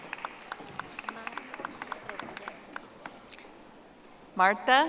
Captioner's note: audience applauding